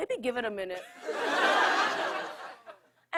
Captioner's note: laughter